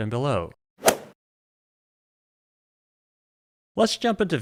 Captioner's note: golf swing sound effect